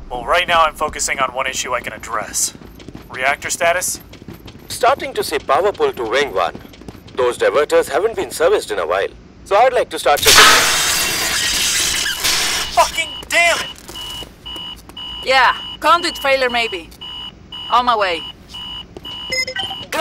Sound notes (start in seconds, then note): 10.2 crash; 10.2 electrical zapping